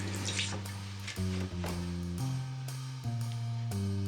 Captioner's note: door opens